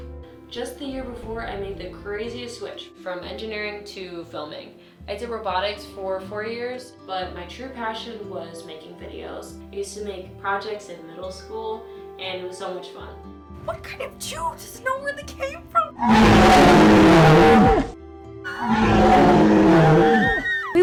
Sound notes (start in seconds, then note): 15.7 dinasour sounds; 18.4 screams